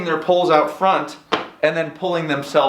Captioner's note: foot stomps